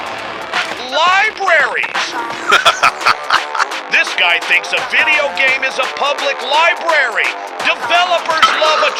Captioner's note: laughing